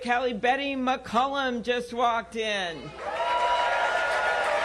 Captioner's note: applause